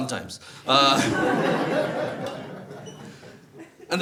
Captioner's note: audience laughs